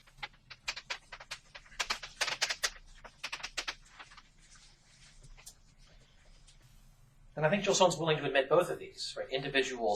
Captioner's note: writing on chalkboard sounds